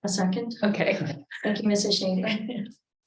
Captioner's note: group laughing